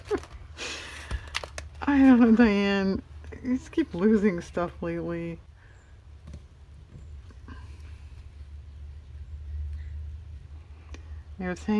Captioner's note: laughs